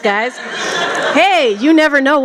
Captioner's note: laughter